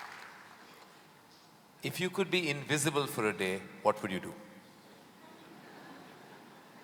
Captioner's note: laughter